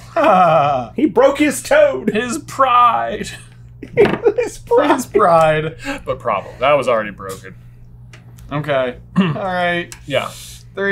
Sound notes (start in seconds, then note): 0.2 laughter; 3.2 giggling